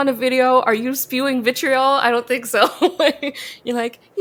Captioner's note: laughs